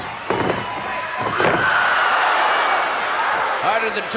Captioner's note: audience cheering